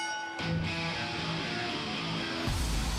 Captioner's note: bell ringing